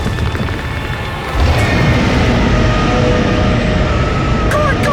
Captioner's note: roar